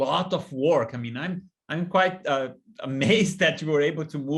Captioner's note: laughter